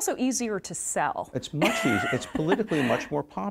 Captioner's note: laughs